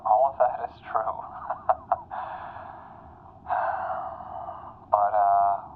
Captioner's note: Gem laughs, then exhales loudly